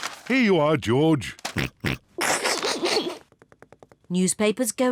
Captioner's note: snorts, snickers